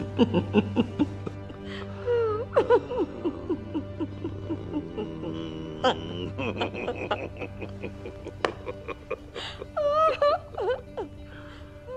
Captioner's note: laughter